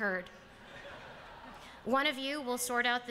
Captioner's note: laughter